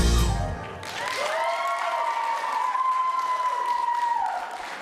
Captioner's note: applause